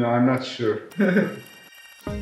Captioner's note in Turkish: Gülüşmeler